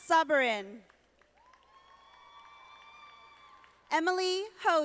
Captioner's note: audience applauding